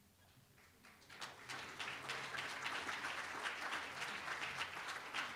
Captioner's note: applause